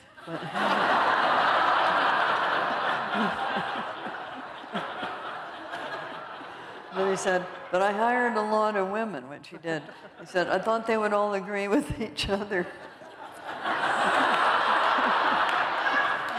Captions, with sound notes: But-- [LAUGHTER] Then he said, but I hired a lot of women, which he did. He said, I thought they would all agree with each other. [LAUGHTER]